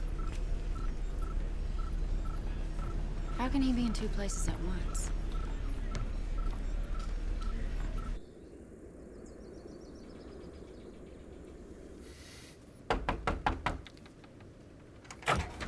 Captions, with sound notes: How can he be in two places at once? (birds chirping) (hard knocking)